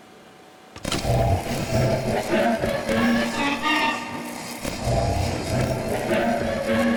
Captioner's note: generator humming; sow squealing